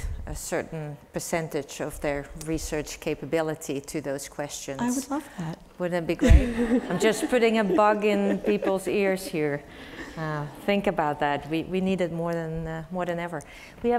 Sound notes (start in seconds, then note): 6.2 laugh